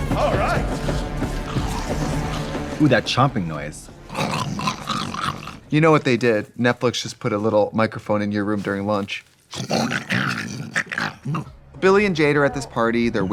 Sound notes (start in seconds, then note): 4.0 imitates zombie snarling; 9.5 imitates zombie snarling